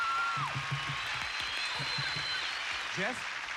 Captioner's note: cheers and applause